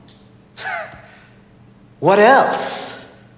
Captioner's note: Dr. Ravi snickers